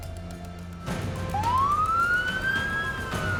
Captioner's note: siren wailing